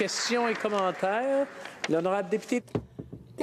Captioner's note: speaking Alternate Language